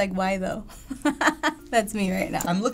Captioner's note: laughing